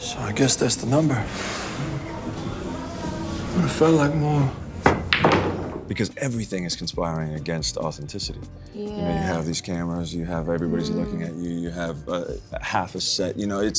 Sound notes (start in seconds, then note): 4.7 balls clattering